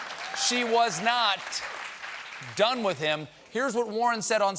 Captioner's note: applause